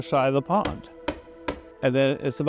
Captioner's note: tree knocking